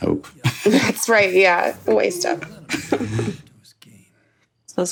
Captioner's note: chuckles